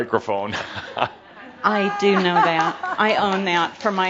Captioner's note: Adamus chuckles